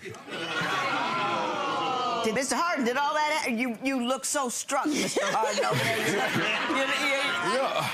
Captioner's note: crowd groans; crowd laughing